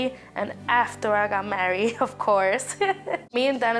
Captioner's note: laughs